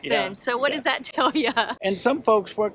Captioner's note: laughs